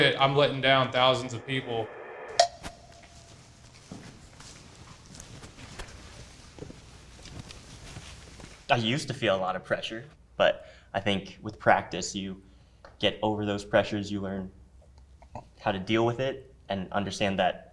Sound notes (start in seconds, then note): 4.2 footsteps approaching